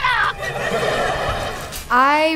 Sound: laughing

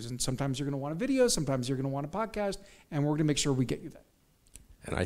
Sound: none

